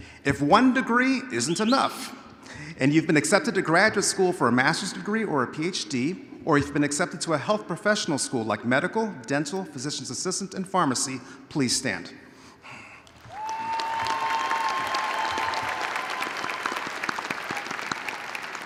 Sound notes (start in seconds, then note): 13.2 audience cheering